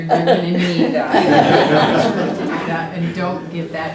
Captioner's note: laugh